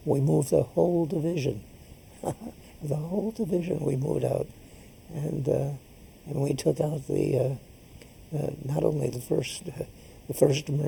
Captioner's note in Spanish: risas